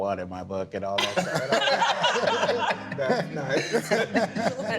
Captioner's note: group laughing